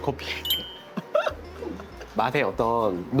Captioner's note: laughter